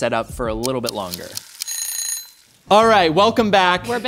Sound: timer Ringing

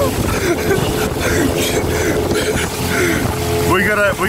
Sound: laughs

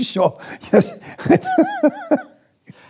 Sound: through laughter

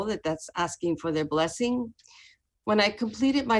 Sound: speaking spanish

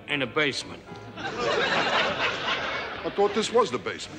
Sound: audience laughs

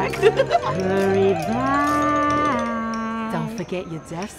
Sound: sing-songy voice

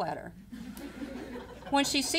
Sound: audience laughing

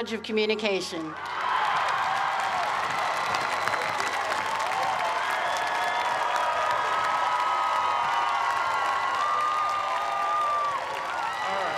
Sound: cheers and applause

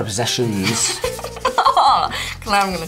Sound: laughs

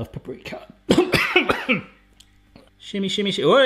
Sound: coughs

